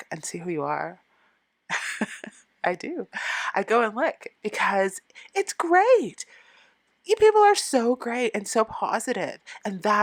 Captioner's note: laughing